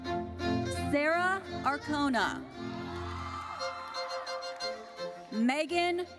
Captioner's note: audience cheers